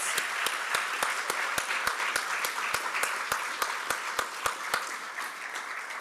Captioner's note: applause